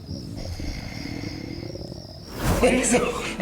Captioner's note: stomach grunts